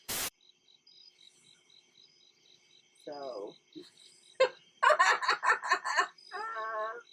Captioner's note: laughing